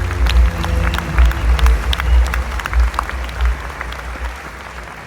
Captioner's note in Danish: Bifald